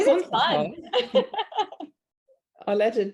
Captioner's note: laughs